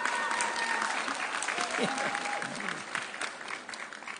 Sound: audience cheering

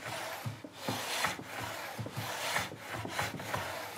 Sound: sanding noises

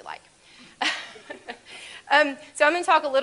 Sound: laughs

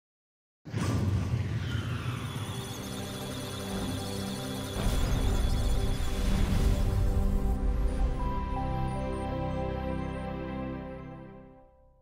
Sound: musical Tones; electronic Sounds of Data

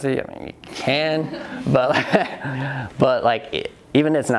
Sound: audience laughs

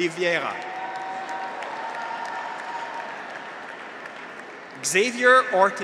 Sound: graduates cheer; audience applauds

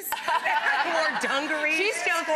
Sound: audience laughs

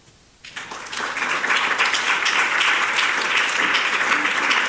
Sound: audience applauding

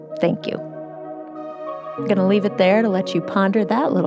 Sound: none

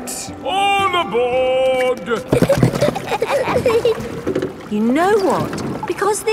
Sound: giggling

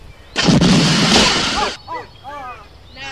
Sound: evil laugh

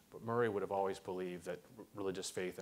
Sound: none

